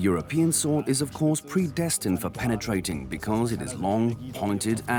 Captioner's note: dubbed in English